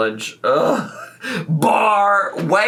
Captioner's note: groaning